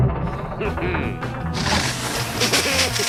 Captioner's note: chuckles; water rushing, laughter